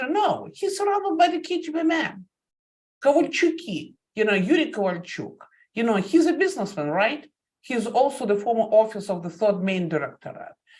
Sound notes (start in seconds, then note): 1.7 speaking Russian